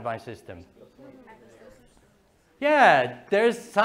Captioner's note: class murmurs